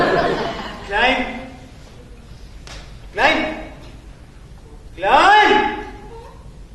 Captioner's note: shouts